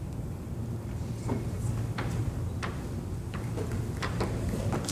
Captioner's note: voiceover